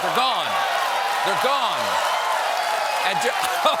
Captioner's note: cheers and applause